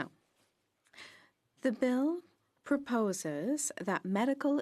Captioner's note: speaking French